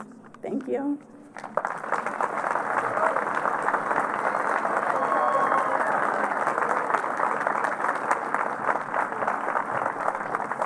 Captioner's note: applause